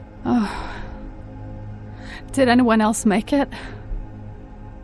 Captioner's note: scoffs